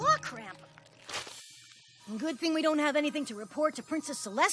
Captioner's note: splat!